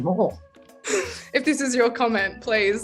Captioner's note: laughs